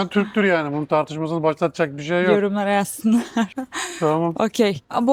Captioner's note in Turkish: kahkaha